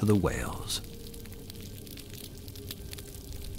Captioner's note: crackling noise over hydrophone